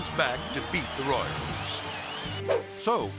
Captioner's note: crowd cheering; air swoosh